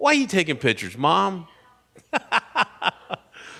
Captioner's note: laughs